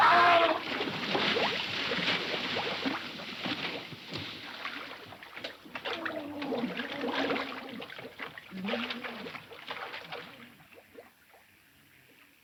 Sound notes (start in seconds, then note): 0.1 Mr. Andrews shouting; 0.1 water splashing; 5.9 Mr. Andrews gurgling